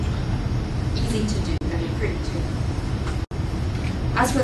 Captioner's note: non-english